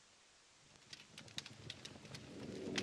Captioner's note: fire crackling